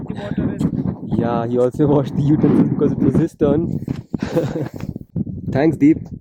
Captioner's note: chuckles